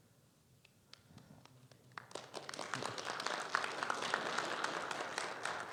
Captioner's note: audience applauding